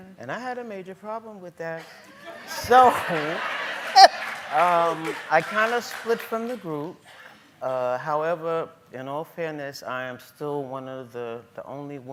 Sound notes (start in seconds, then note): 1.9 laughing